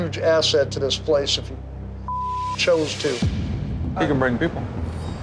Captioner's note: beep